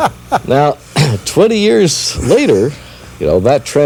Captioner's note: laughter